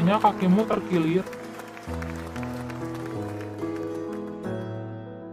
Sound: applause

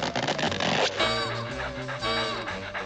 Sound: panting

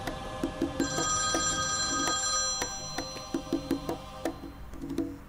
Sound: phone ringing

